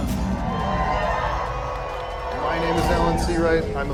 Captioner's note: crowds cheer